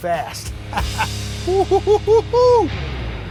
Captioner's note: laughs